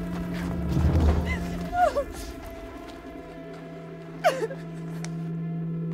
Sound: cries

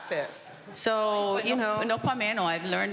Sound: speaking Spanish

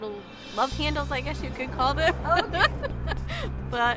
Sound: laughs

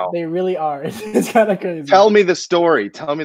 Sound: laughing

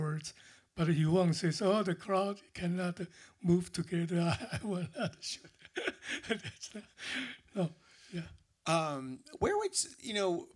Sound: laughter

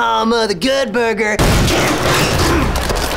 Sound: crashing

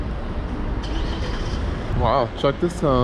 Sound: car engine

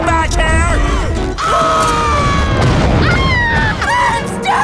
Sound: screaming

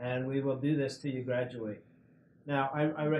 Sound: none

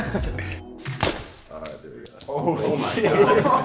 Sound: glass clinking

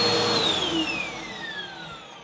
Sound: vacuum shuts off

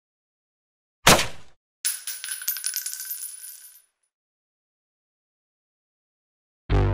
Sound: gunshot. He is died. I guess

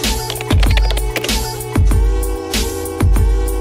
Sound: upbeat music; logo clicking

